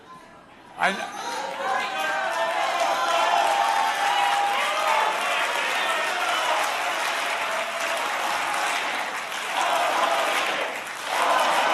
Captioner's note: applause